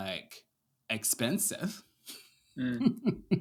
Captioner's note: laughs